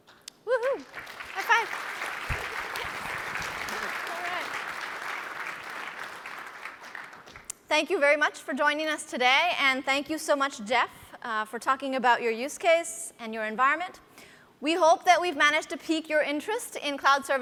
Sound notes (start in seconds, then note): 2.4 applause